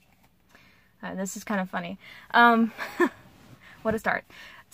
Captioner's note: huffs laugh